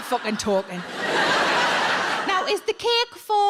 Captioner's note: audience laughs